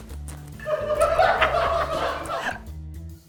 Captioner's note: laughter